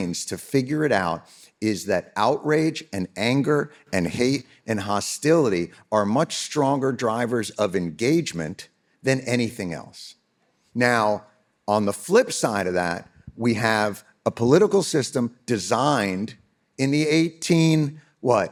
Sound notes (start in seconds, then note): none